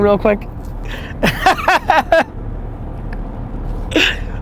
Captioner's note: laughing